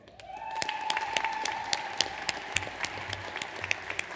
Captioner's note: audience applauds